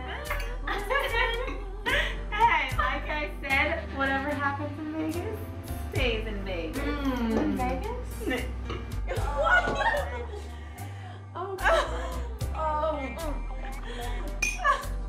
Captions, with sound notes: - What was I saying? - Like I said; whatever happens in Vegas, stays in Vegas. - Were you in Vegas? [laughing]